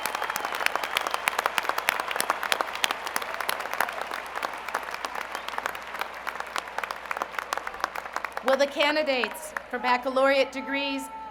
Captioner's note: applause